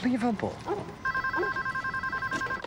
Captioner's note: phone ringing